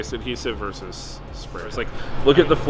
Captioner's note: murmurs